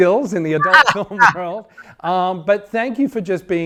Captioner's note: laughing